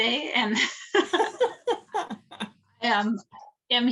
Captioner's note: laughs